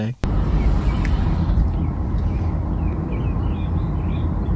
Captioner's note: birds chirping